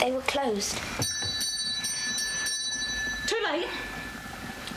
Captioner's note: bell ringing